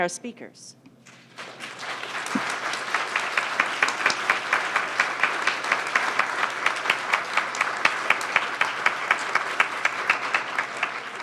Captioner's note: applause